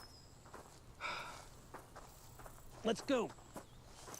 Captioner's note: sighs